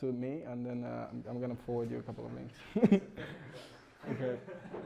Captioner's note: laughs